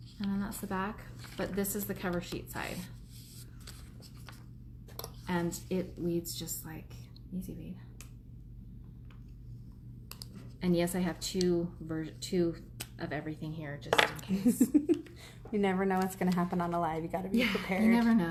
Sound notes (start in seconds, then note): 15.0 laughs